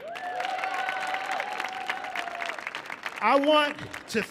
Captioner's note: audience cheering